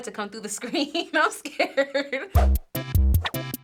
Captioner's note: laughs; quirky interlude